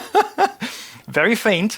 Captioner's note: laughing